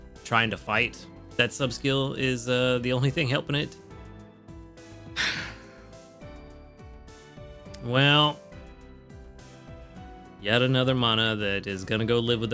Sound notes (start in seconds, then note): 5.1 sighs